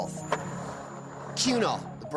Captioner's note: skateboard wheels roaring